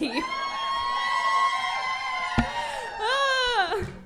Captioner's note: crowd cheering